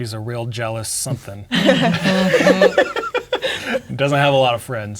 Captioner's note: all laughing